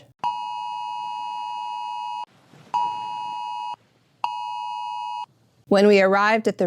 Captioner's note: alarm sounding